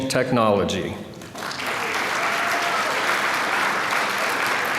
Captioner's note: applause